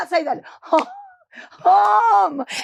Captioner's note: Marguerite laughing